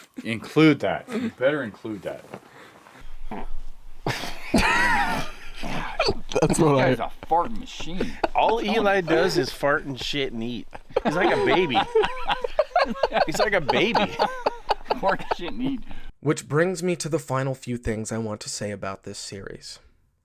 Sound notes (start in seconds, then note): 3.2 man farting; 3.7 man laughing; 14.4 all laughing